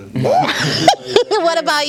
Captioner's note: laughing